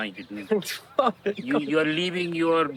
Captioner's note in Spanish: risas